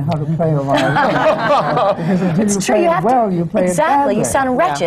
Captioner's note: laughter